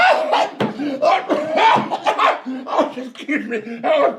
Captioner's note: Jake laughing; Jake coughs